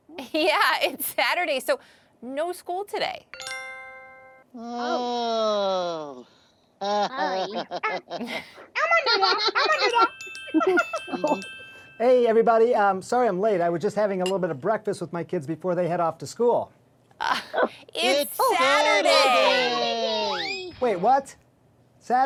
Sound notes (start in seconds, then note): 0.3 chuckling; 3.3 twinkling music; 6.8 chuckling; 9.7 twinkling music; 10.5 giggling